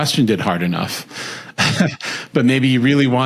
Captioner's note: laughs